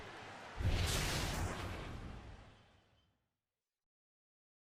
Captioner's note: swoosh